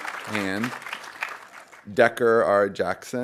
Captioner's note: audience applauding